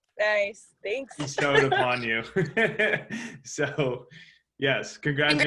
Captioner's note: laughs